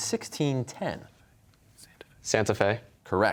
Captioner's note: whispering